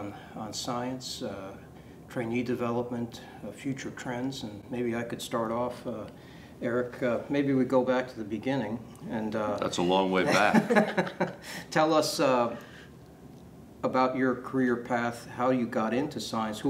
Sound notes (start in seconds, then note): 10.2 laughs